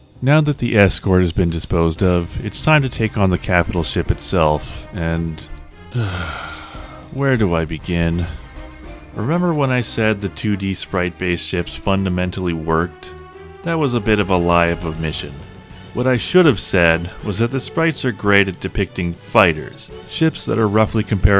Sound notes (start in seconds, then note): 5.9 sigh